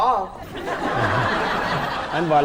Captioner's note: laughing